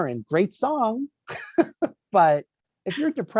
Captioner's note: laughs